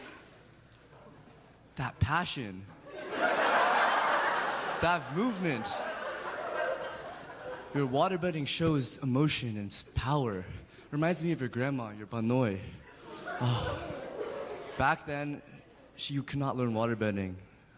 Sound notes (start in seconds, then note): 13.4 sighs